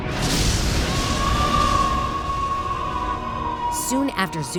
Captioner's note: screaming